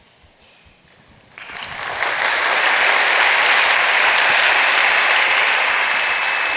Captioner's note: applause